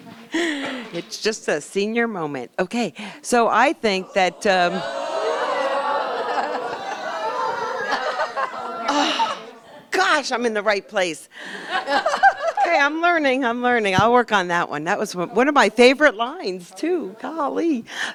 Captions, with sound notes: It's just a senior moment. Ok so I think that- [crowd responds in humored disappointment] Oh! Gosh I'm in the right place! [laughter] Ok, I'm learning- I'm learning, I'll work on that one. That was one of my favorite lines too, golly.